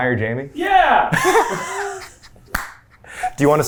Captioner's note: laughing